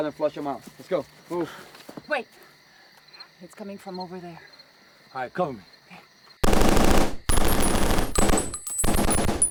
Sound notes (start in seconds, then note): 6.4 gunshots